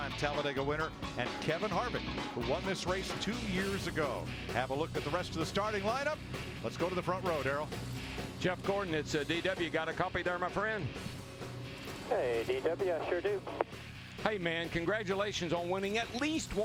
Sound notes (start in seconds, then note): none